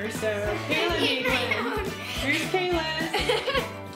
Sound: laughs

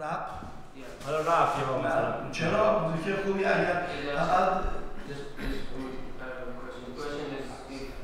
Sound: speaking in farsi

